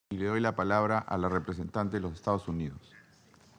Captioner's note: in Spanish